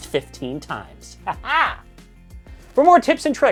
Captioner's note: wildly villainous laugh